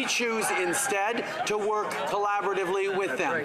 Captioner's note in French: voix de l'interprète